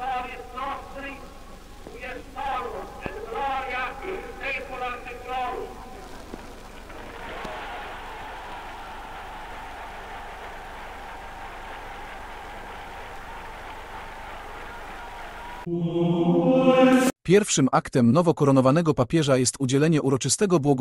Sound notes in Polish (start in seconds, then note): 4.7 Aplauz